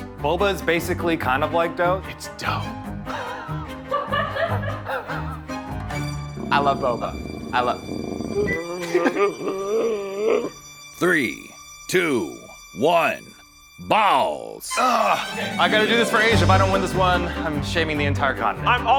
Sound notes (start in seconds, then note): 3.2 laughter; 6.0 panda purring and whining; 8.5 Zach laughs; 14.7 orchestra music intensifies